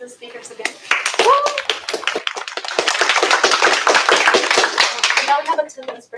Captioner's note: applause